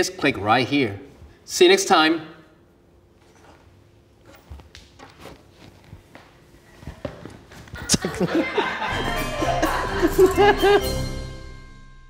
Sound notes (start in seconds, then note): 7.6 laughs